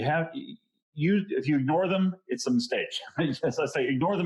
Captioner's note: chuckles